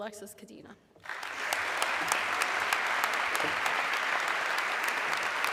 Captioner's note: audience clapping